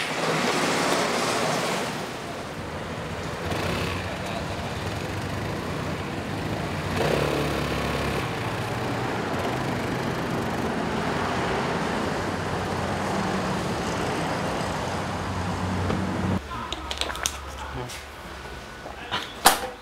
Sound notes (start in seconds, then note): 0.1 engine turns over; 8.3 scooters ride off; 16.7 chewing noises